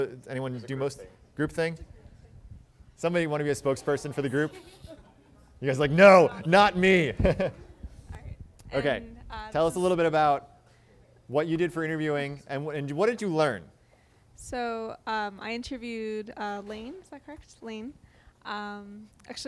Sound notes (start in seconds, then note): 7.1 chuckles